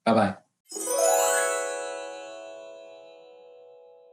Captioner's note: chimes ring